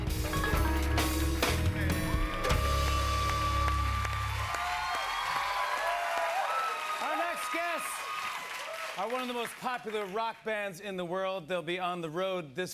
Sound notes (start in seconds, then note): 2.6 cheers and applause